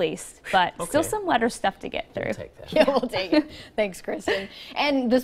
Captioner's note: laughter